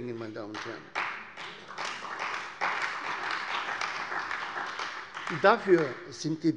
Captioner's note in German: Beifall bei der CDU und dem BÜNDNIS 90/DIE GRÜNEN